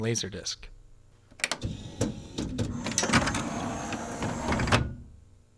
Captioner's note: before tray opens, we hear that high whirr and clicks